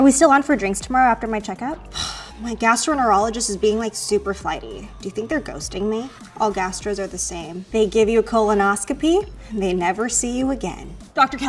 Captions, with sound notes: Are we still on for drinks tomorrow after my checkup? (sighs) My gastroenterologist is being, like, super flighty. Do you think they're ghosting me? All gastros are the same. They give you a colonoscopy, and they never see you again.